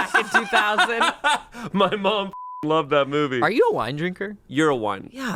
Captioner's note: laughs